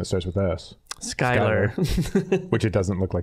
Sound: laughing

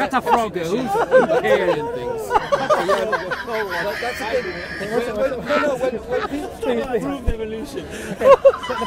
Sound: a lot of laughing

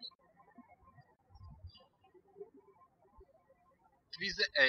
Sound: birds chirping

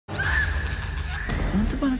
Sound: screaming

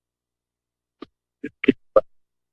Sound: microphone static

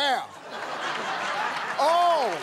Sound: laughter

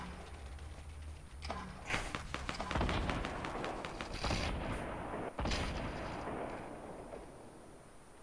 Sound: gunfire and other weapons firing continue to be heard

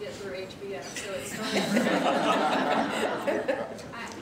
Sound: laughter

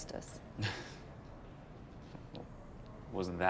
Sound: laughs

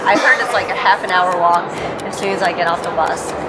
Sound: ticking

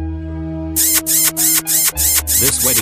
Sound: kissing

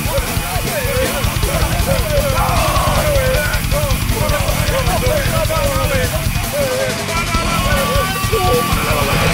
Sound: group chanting

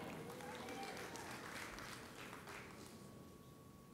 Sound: audience applauds

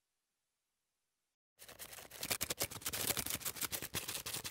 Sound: wings flapping

